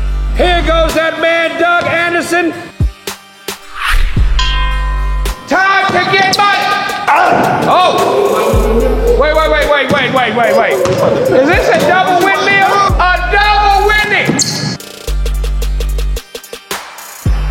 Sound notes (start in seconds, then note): 4.3 ding; 7.0 scream; 16.6 upbeat music